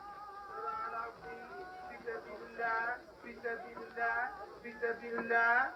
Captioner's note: speaking foreign language